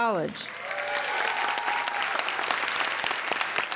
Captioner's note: applauding